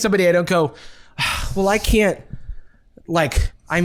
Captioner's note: sighs